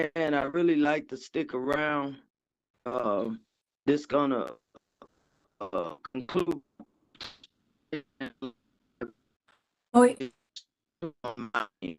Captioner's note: distorted audio